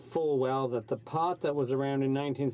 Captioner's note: speaking French